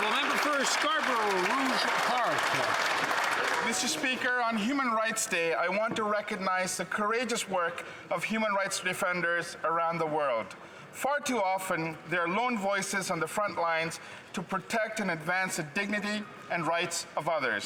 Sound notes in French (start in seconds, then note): 6.7 voix de l'interprète